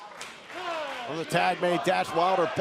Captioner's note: fans chanting